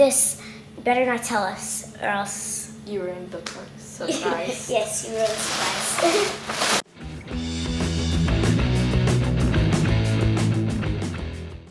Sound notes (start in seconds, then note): 6.7 laughs; 6.8 rock music